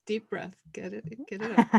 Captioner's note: laughing